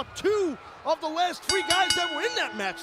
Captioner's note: bell dinging